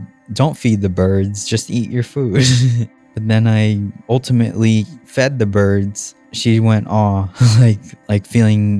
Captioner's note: laughs